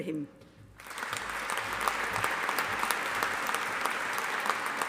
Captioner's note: audience applauding